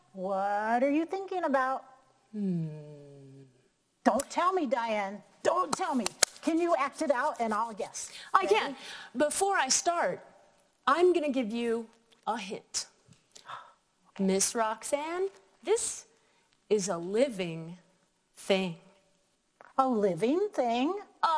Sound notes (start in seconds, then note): 2.4 humming thoughtfully